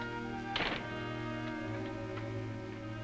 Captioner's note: door closes